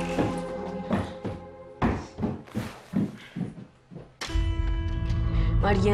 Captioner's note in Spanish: Toques en la puerta